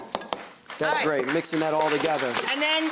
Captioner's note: applause